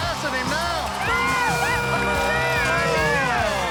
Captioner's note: cheering